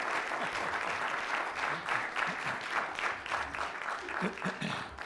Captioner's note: laughs